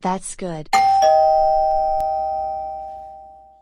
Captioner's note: doorbell rings